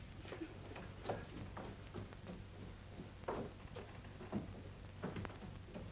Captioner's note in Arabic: خطوات سريعة على الدرج; خطوات بطيئة على الدرج